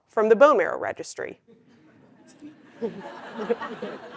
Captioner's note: laugh